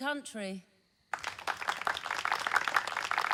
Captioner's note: clapping